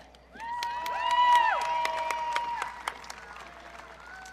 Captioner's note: audience cheering